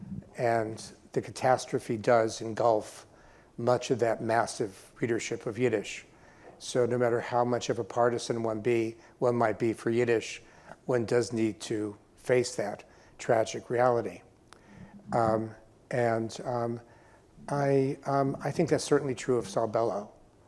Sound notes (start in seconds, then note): none